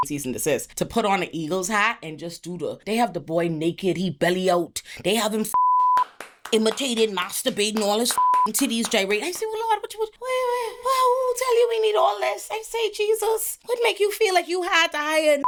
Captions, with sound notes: season to assist, to put on a Eagles hat and just do the, they have the boy naked, he belly-oaked, they have him (beep) imitated, masturbating, all his (beep) titties, J.R.E. They say, "Well, Lord, what you was playing with? "Oh, tell you we need all this." They say, "Jesus, what make you feel like you hard-eyed "and